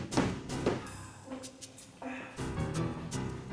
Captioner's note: sighing